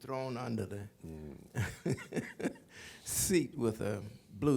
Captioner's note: laughs